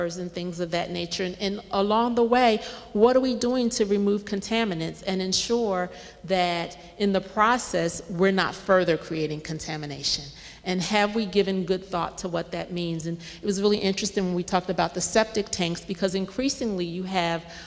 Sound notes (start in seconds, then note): none